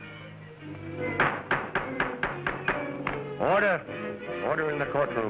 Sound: hammering gavel

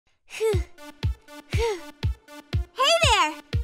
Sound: upbeat music; panting

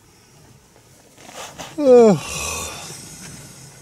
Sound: yawns

